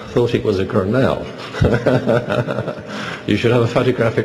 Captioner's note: laughs